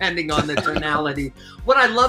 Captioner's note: laughs